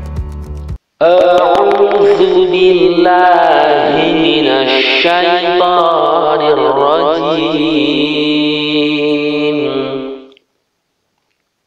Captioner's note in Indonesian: dalam bahasa Arab